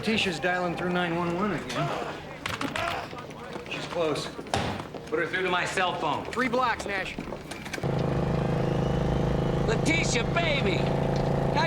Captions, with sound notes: - Lateesha's dialing through 9-1-1 again. She's close. - Put her through to my cell phone. - Three blocks, Nash. (engine purring) - Lateesha, baby!